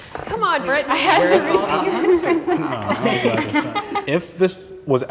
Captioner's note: group chattering and laughing